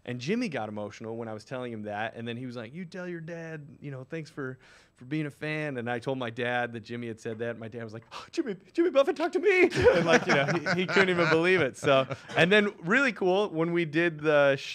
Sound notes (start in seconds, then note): 9.6 laughs